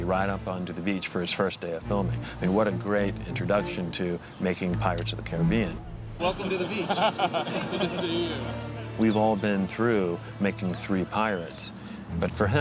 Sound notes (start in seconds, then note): 6.2 laughs